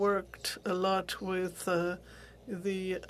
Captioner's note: speaking French